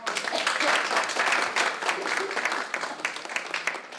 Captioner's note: applause